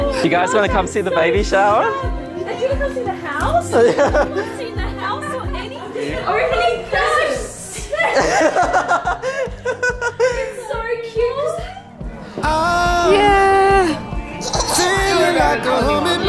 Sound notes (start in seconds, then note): 3.5 laughs; 9.0 laughs